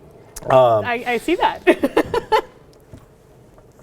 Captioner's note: laughs